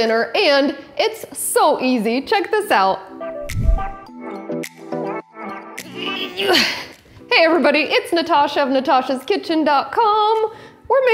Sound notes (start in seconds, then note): 3.1 upbeat music; 6.3 grunts